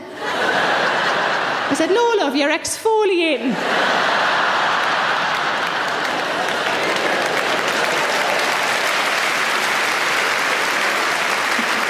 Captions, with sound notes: (audience laughs) I said, "No, love, you're exfoliating." (audience laughs) (audience applauds)